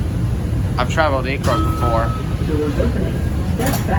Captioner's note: chime